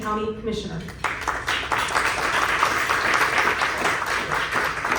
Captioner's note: clapping